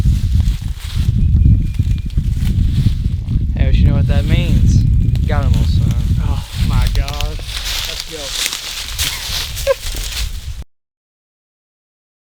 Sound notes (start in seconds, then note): 9.0 laughs